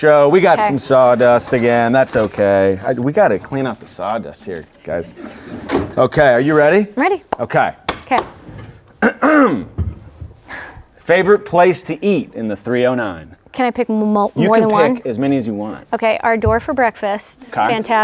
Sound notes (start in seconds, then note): 9.0 clears throat